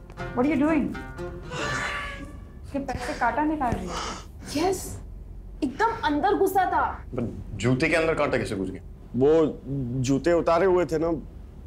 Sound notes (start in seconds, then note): none